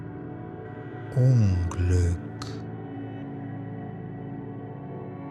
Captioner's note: german